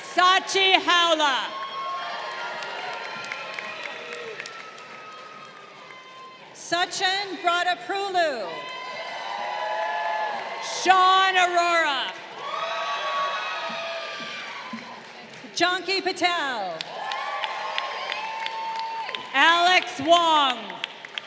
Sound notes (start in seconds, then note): 1.7 crowd cheering; 8.4 crowd cheering